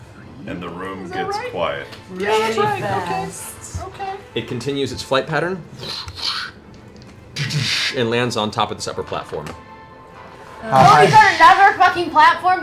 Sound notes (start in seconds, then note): 5.6 flapping, impacts